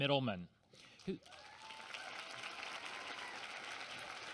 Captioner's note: applause